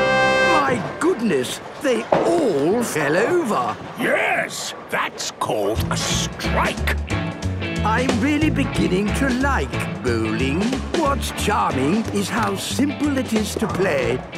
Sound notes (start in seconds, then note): none